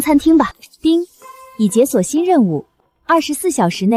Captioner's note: ding!